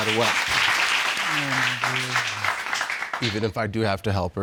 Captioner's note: applause